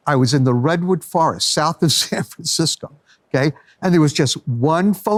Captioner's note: laughs